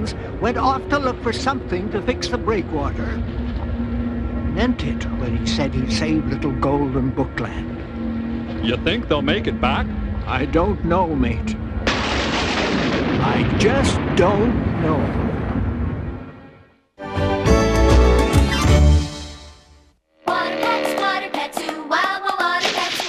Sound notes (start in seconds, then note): 11.7 thunderclap